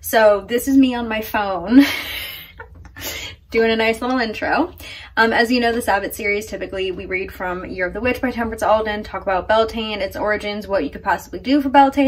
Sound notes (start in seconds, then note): 4.6 laughs